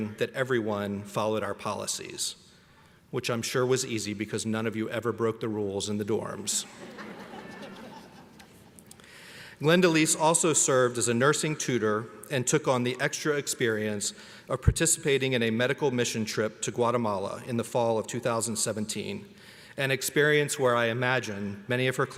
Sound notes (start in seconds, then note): 6.7 audience laughs